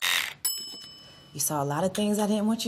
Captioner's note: razor buzzes; bell chimes